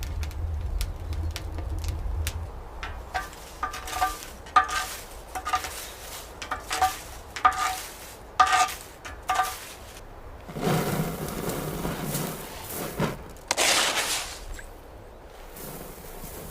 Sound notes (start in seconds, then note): 2.8 wood scraping; 10.7 salt cascading; 13.6 bowl scraping